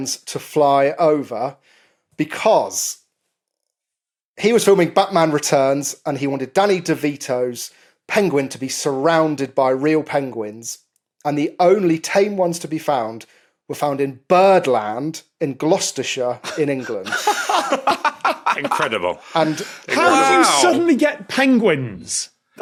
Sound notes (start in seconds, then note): 16.4 giggle